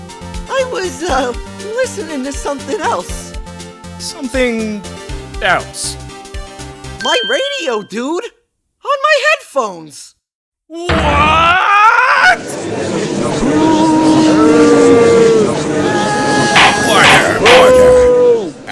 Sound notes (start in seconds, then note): 13.3 gallery chattering, booing